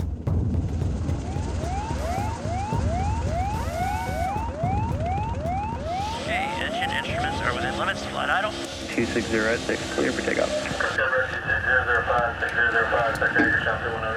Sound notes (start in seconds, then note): 0.1 dramatic music; 1.7 siren wails; 11.2 radio chatters